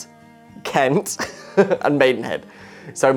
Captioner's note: laughs